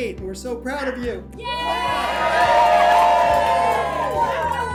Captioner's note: cheering